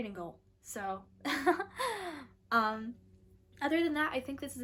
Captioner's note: laughter